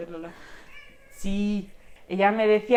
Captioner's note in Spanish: Lola maulla